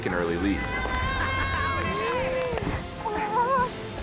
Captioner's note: screaming